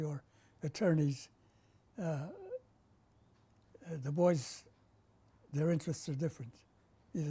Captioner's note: pauses for 3 seconds